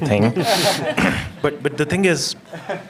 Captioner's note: laughter